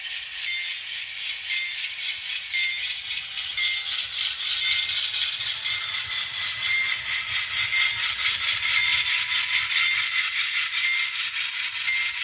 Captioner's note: model train noises